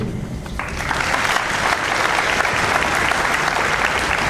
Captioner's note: audience applauds